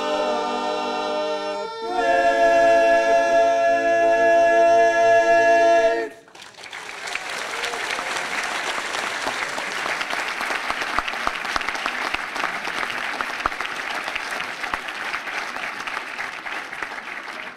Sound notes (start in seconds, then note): 6.0 applause